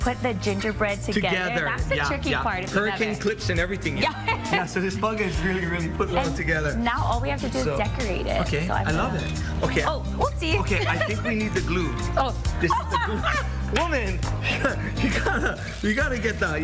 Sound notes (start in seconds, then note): 4.0 laughs; 10.4 laughs